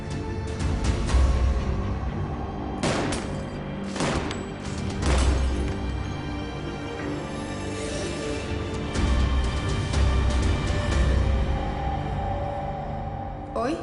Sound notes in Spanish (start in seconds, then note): 2.8 Disparos